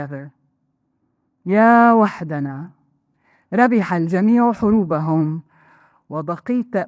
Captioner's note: speaking in foreign language